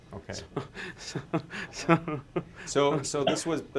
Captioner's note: laughs